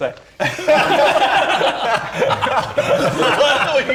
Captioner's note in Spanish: Risas